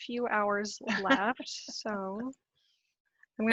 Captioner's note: laughing